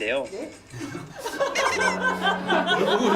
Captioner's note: laughing